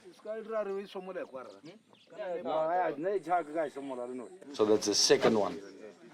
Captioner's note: speaking native language